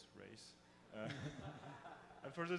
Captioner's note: audience laughs